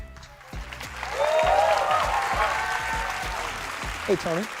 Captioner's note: cheering